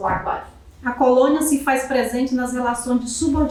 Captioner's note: speaking portuguese